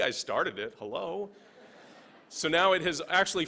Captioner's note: laughing